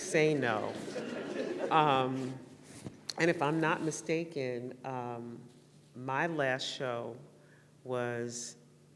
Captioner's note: laughter